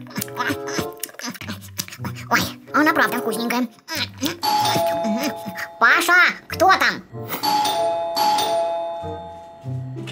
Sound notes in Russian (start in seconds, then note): 4.2 еще ням-ням; 7.0 динь дон, динь дон